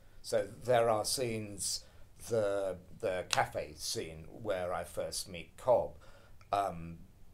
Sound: none

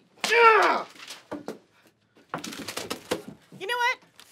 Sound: grunts

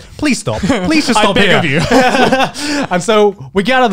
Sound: laughing

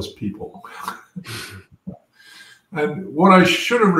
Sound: laugh

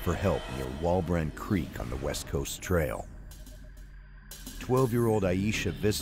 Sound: voiceover

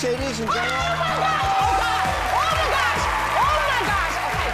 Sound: audience cheering

